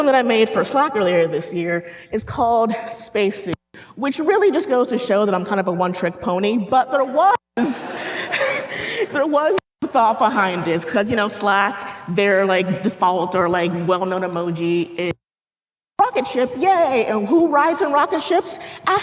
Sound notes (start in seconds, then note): 7.6 audience laughing